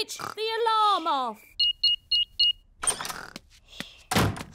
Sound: beeping

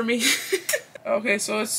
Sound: laughs

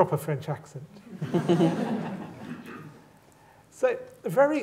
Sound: laughter

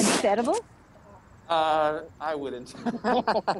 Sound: laughs

